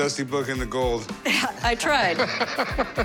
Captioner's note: laughs